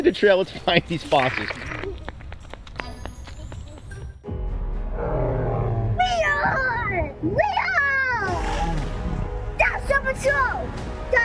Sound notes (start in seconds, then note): 2.8 comical music; 4.9 dinosaur roaring